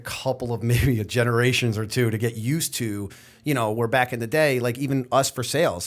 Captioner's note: chuckle